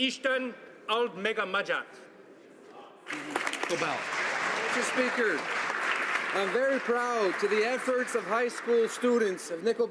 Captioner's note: speaking alternate language